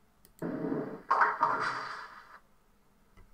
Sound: bowling Sounds

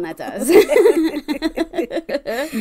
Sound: laugh

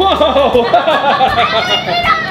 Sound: laughs

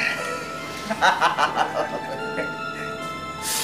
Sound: laughs

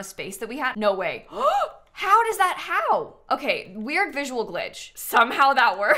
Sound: gasps

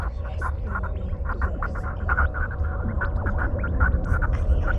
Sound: space sounds

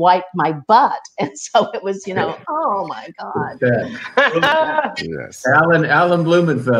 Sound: laughs

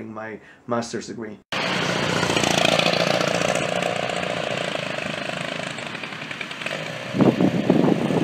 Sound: Sunset car sounds fading in and out; wind howls

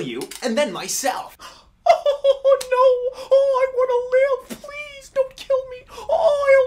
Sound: fake crying

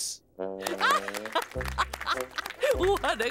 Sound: laughing, clapping

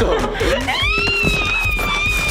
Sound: squealing

